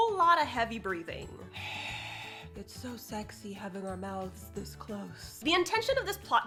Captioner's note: deep heavy breathing sounds